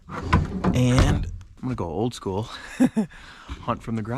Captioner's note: laughs